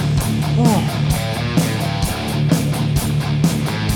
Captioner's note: sighs